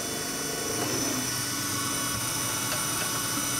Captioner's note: machine noise